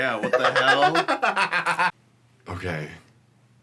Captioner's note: nervous laughter